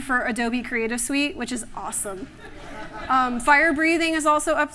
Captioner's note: laughter